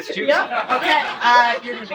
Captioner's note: laughter